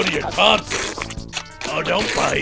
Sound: sucking

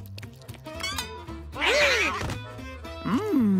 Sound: gasping

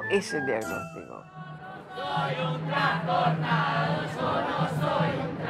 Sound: manifestation chant

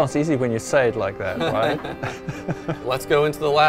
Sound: laughter

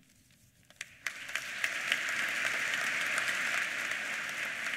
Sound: applause

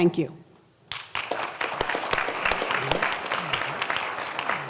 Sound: applause

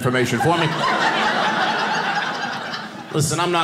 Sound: audience laughing

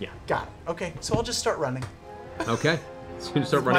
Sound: laughs

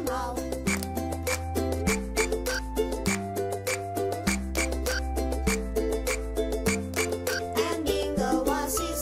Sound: clap

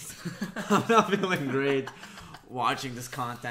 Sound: laughs

